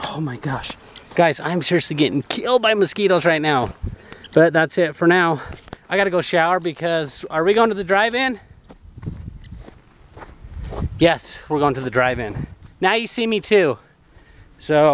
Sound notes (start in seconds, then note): none